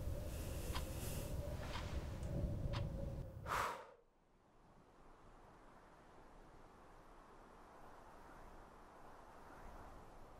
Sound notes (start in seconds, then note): 3.0 Ellie blows; 4.1 wind whistling